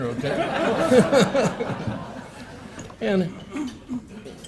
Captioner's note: laughter